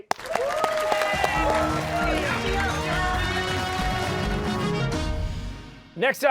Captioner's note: cheers and applause